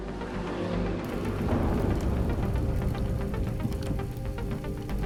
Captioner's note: car engine roaring